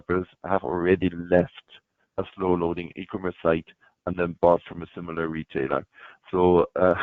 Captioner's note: chuckles